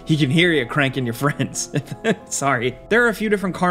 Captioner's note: laughs